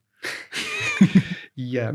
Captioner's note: both laugh